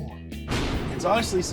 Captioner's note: thunder crackling